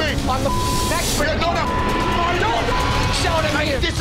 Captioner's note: men arguing